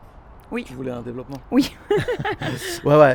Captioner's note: laughs